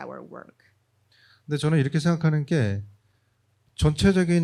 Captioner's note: speaking korean